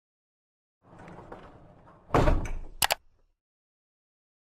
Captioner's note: bumping and mouse clicks